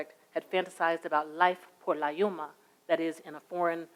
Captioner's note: speaks in a foreign language